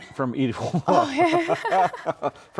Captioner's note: laughs